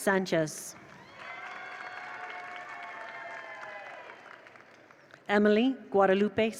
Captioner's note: attendees cheer; attendees applaud